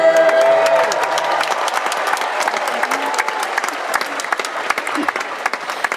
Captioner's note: audience applauding and cheering